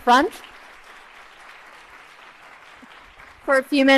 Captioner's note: applause